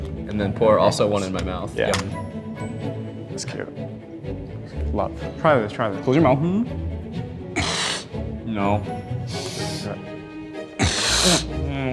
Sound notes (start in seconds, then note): 7.7 sniffs deeply; 10.8 sniffs deeply; 10.8 sniffs